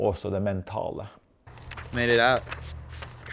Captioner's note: speaking foreign language